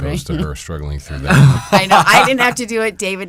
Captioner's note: laughs